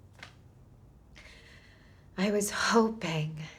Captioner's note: inhales deeply